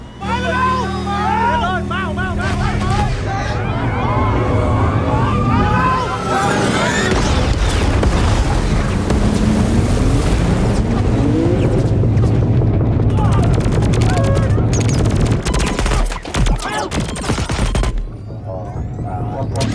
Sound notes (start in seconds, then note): 14.0 soldiers yelling; 17.8 robot sounds